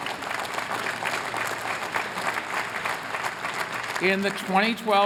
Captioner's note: applause